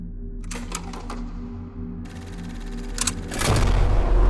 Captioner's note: film reel clacking